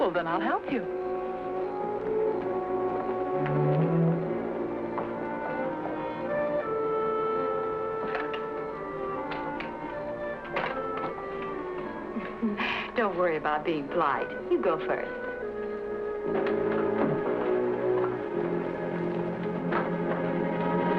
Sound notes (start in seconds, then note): 2.5 suspenseful music; 12.0 chuckles; 16.8 suspenseful music